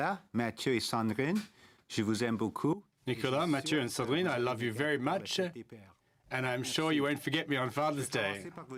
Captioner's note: speaking French